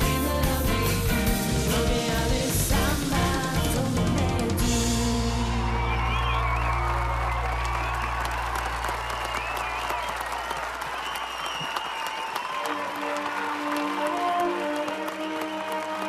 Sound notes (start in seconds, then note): 10.5 cheering; 13.5 applause